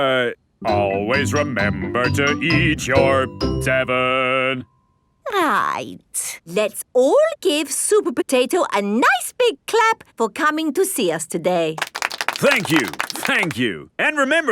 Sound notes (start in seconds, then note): 11.8 applauding